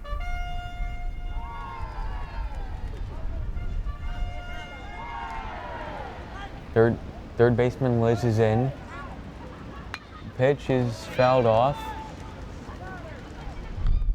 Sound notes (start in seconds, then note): 2.2 crowd; 9.4 bat pings